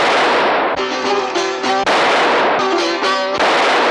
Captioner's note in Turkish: Silah sesleri